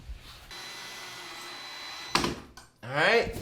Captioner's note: drill whining